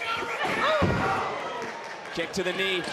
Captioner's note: crowd chatter